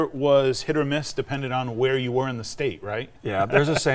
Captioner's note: laughs